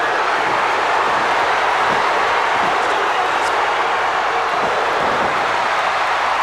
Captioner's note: crowd's roar drowns out commentary